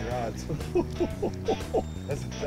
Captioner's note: chuckling